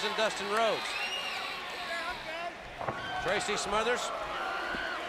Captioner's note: crowd cheering